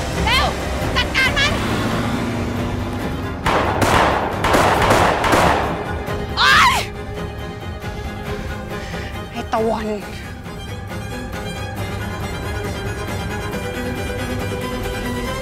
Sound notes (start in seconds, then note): 3.4 gunshot